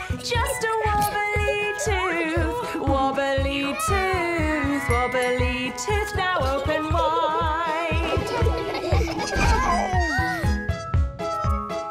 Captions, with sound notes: Just a wobbly tooth, wobbly tooth, wobbly tooth. Now, open wide. [laughter]